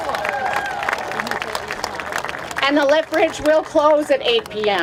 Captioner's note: applause